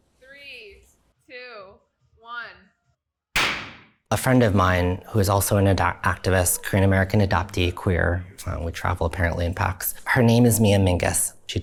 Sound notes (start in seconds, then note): 3.3 popper pops